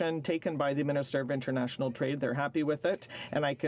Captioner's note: speaking French